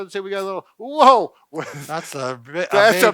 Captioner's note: chuckles